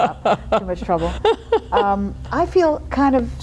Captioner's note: laughing